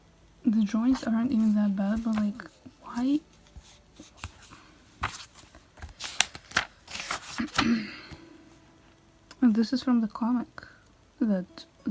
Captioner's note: cough cough